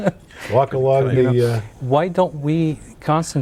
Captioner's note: laughing; laughing